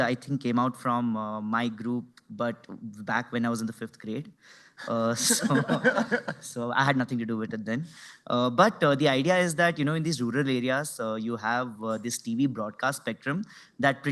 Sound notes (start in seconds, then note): 5.1 laughter